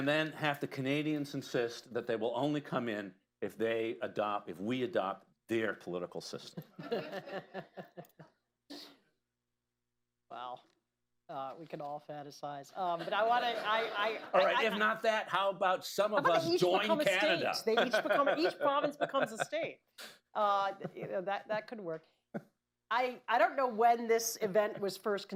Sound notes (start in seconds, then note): 6.5 laughter; 13.0 laughter; 17.6 laughs